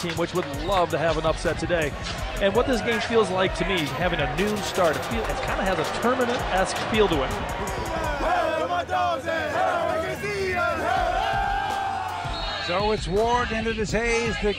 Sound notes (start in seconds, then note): 9.6 players chanting and cheering